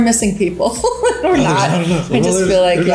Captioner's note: laughs